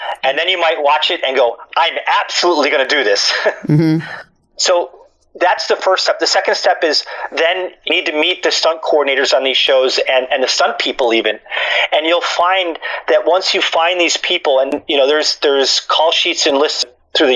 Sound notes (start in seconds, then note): 3.6 laughs